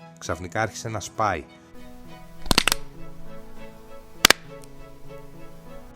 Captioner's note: sound of egg cracking